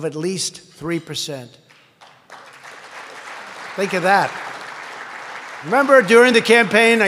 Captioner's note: applause